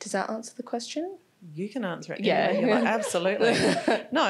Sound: laughing

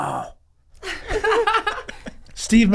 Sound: all laughing

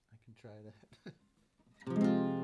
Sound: chuckles

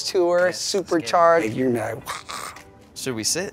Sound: grunts

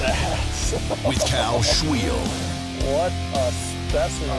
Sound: laughs; voiceover

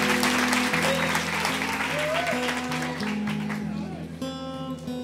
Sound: applause

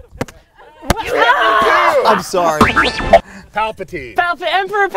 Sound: yelling

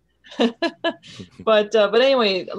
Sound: laughing

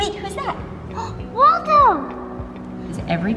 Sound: gasps

